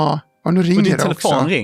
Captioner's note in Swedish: Telefon ringer